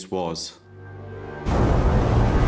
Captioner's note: dramatic music; waves crashing